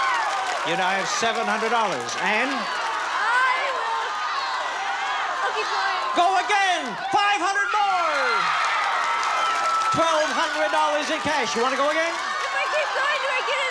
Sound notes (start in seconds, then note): 7.7 audience cheering